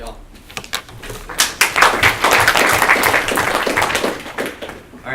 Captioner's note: applause